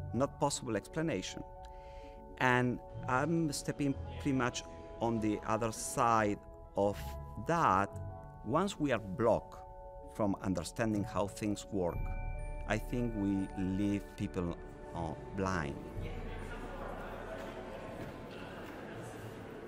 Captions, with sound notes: not possible explanation. And I'm stepping pretty much on the other side of that. Once we are blocked from understanding how things work, I think we leave people blind. (people chattering)